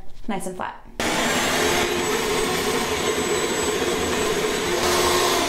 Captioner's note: vacuum whirring